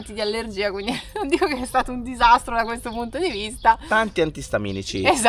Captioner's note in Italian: risate